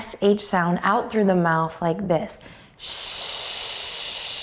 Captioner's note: shushes